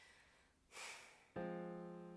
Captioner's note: sighs; background music starts